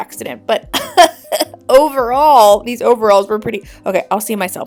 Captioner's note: laughs